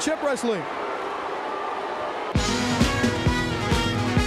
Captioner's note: crowd cheering